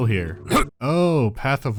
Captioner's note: cough